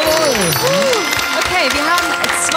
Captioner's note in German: Jubel